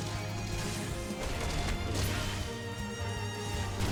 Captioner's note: gunfire